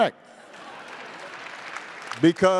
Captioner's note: attendees applauding